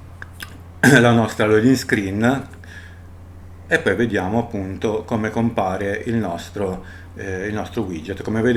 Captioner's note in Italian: schiarire la voce